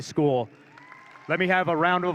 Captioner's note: audience cheering